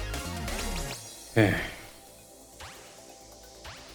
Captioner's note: sigh